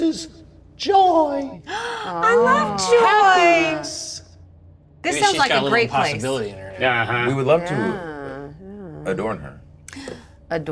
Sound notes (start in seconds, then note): 2.7 gasping